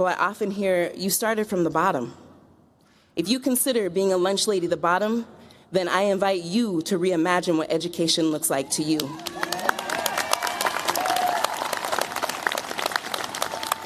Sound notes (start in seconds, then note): 8.9 cheers, applause